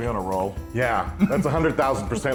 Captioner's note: laugh